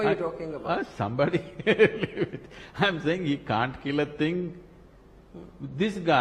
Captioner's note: Sadhguru laughs